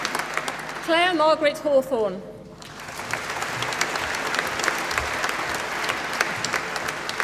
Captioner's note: applause